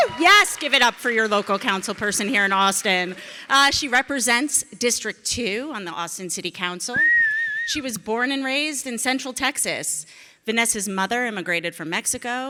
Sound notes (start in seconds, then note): 7.0 audience member whistling